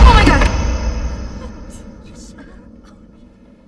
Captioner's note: students murmuring